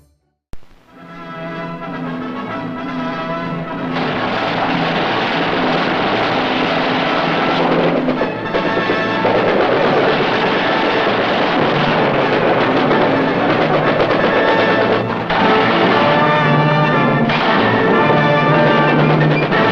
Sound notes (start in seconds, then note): 6.5 dramatic music; 9.6 banging